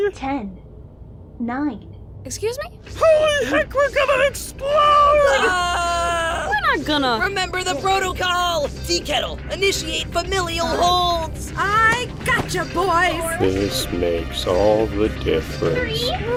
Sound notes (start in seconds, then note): 1.8 alarm blares, countdown continues; 4.7 lifering screams